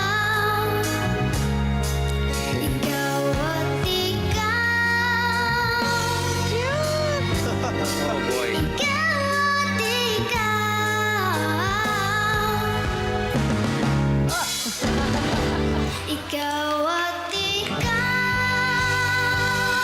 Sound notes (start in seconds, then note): 7.2 chuckles; 14.3 chuckles